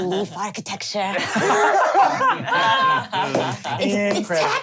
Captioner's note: laughs